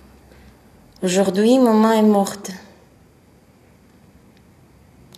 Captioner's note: in french